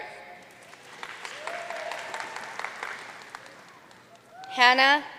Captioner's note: audience cheering and applauding